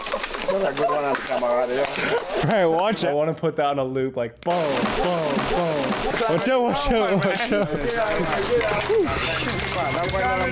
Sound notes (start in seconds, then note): 2.9 boys chatter; 2.9 branch snaps; 7.2 boys laugh